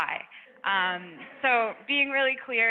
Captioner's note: audience laughs